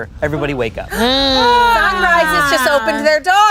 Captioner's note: yawns